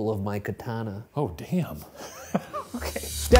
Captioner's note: chuckles